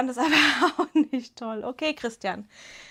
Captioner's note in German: Gelächter